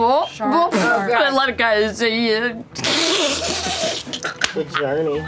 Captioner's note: laughs